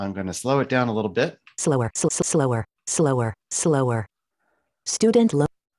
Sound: automated Voice

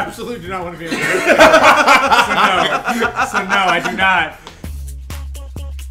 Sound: laugh

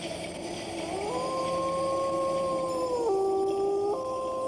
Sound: wolf howls

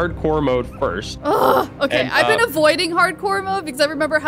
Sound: groans

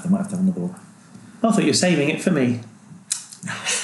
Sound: laughs

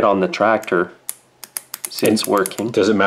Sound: clicking

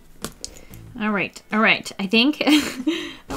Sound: laughs

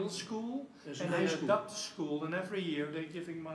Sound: foreign language

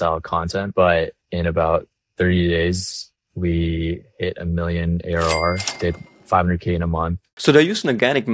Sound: cash register ringing

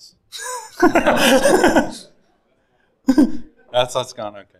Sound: all laughing

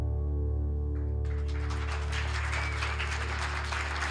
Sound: ending notes fade; cheers and applause

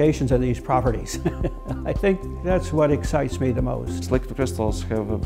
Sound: laugh

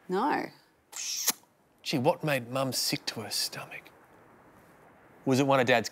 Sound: smacks lips

